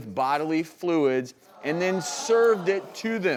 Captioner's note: audience gasps